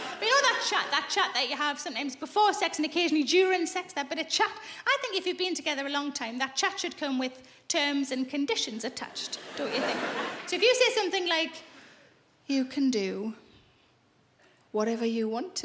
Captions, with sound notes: But you know that chat? That chat that you have, sometimes before sex and occasionally during sex? That bit of chat? I think if you've been together a long time, that chat should come with terms and conditions attached. Don't you think? (laughing) So if you say something like, you can do whatever you want to me.